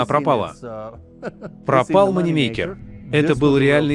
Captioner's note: chuckles